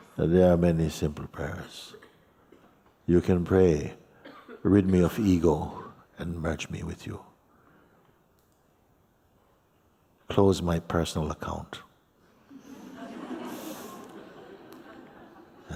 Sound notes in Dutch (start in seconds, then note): 12.5 gelach